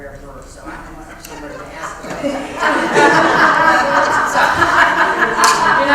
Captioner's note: laugh